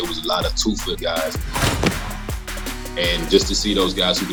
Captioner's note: ball swooshes